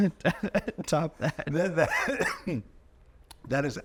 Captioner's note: chuckling